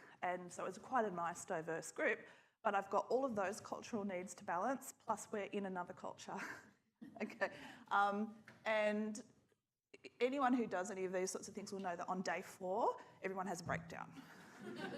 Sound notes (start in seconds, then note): 7.0 chuckles